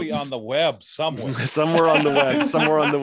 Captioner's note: laughs